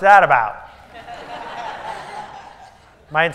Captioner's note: laughter